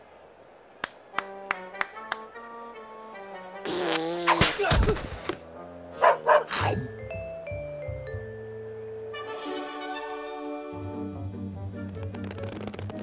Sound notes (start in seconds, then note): 1.1 clapping; 6.0 dog barks